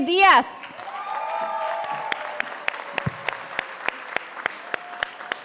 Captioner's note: audience applauding